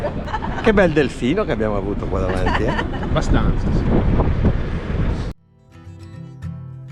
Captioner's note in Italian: risate